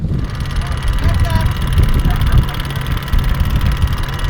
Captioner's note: mechanical whirring